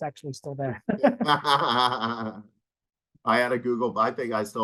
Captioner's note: laughing